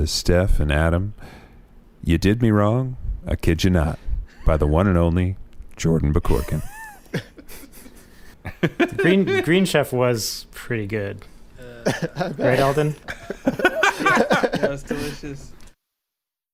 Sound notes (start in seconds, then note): 15.2 laughing